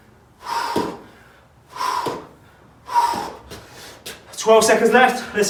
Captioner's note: exhaling heavily